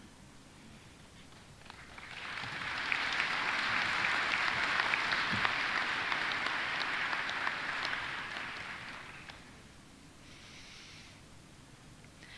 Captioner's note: applause